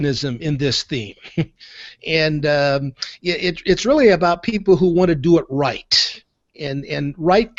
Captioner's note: chuckles